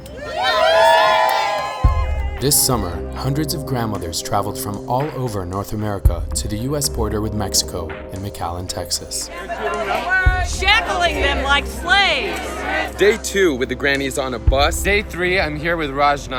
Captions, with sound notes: [crowd cheers] This summer, hundreds of grandmothers traveled from all over North America to the U.S. border with Mexico in McAllen, Texas. [Crowd] Shackling them like slaves. Day two with the grannies on a bus. Day three. I'm here with Rachna.